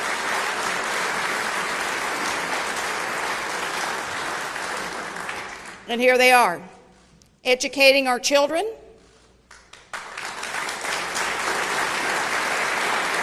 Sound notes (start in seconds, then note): 3.1 applause